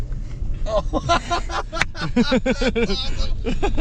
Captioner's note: laughing